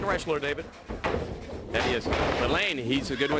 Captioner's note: crowd chatter